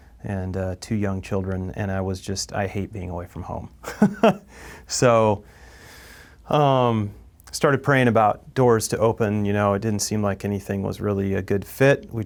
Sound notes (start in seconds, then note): 3.8 laughs